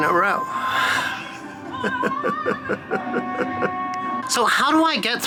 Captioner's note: sobbing